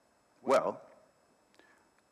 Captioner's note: speaking in foreign language